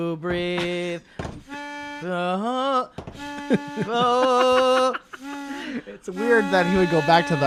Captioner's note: laughs